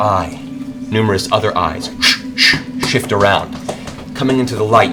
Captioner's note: whoosh whoosh